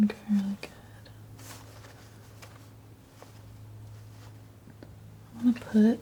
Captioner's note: scratching